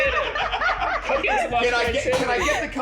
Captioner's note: laughing